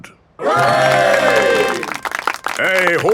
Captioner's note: clapping